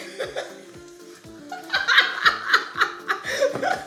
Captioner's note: laughing